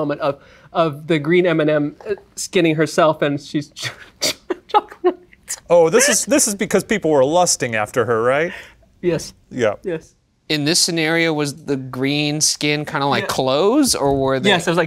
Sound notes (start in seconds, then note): 5.8 laughs